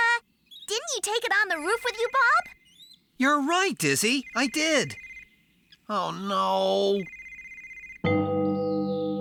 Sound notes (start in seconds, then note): 5.8 exasperated; 7.1 phone Continues to Ring